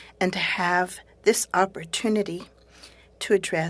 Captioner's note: speaking French